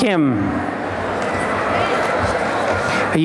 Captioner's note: applause